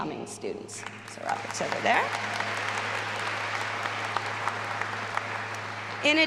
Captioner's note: all applauding and cheering